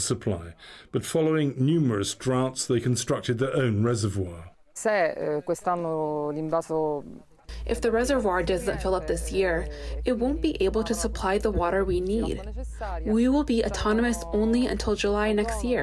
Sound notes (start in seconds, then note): 6.3 through translator